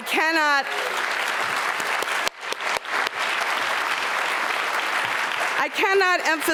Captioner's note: applause